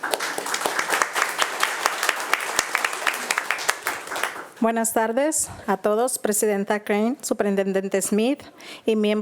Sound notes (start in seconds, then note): 0.0 attendees applauding; 4.8 speaking in Spanish